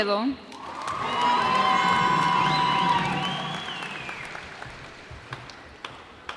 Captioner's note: cheers and applause